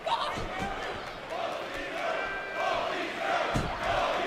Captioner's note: fans chanting